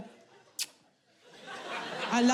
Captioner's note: kissing sound